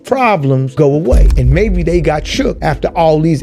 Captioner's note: gavel bangs